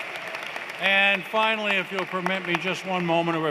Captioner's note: applause